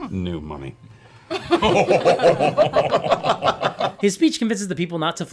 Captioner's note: laughter